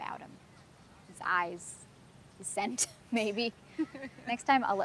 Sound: both laughs

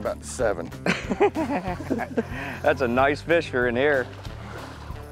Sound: laughs

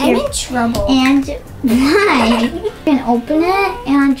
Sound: giggles

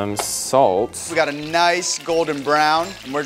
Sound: hot oil sizzling

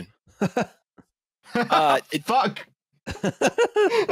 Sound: laughs; laughter

